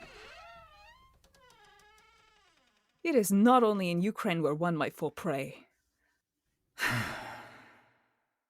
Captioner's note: both sigh